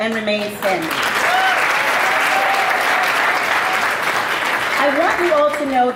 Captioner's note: audience applauding